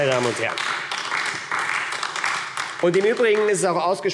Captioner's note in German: Beifall AfD